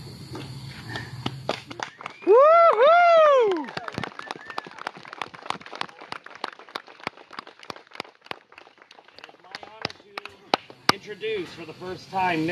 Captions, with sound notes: [Applause & Cheering.] It is my honor to introduce, for the first time,